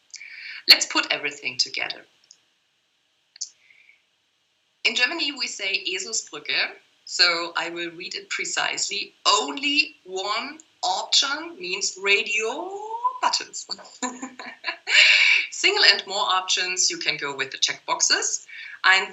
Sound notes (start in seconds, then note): 13.8 laugh